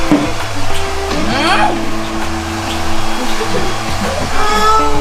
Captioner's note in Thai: จุ๊บๆๆๆ